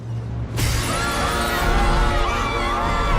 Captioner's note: children screaming